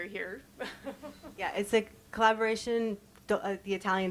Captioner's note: chuckles